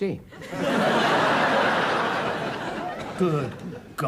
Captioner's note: audience laughs